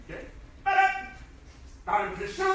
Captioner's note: enthusiastic shouting